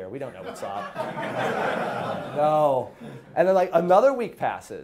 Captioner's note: class laughing